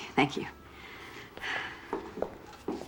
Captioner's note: sighs